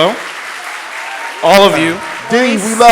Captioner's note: audience clapping and cheering